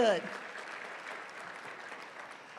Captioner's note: applause